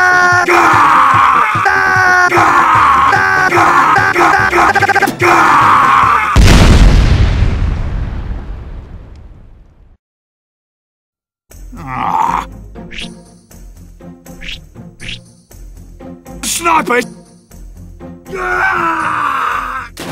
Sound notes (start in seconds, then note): 0.0 screaming; 0.0 demoman screaming; 2.4 blu snipers screaming; 3.6 screaming 2; 4.1 screaming 3; 6.3 ka boom; 18.3 BLU Sniper 1 screaming and falling